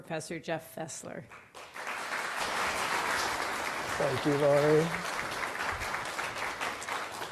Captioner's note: applause